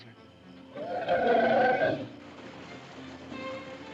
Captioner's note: elephant grumbles; whimsical music